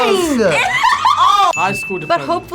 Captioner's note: laughs